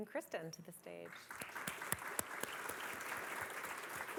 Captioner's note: applause